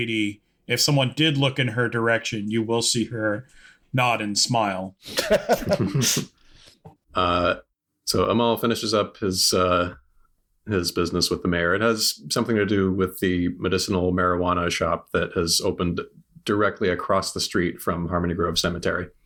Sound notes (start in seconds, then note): 5.0 laughter